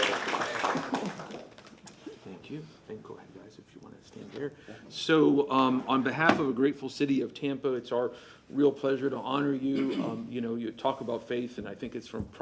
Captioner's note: applause